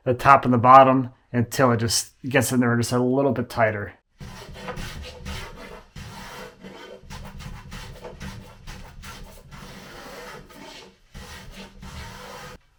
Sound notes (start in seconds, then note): 4.2 hand plane scrapes